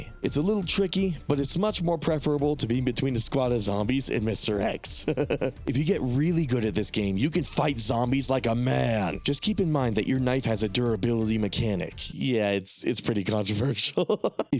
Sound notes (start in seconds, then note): 5.0 laughs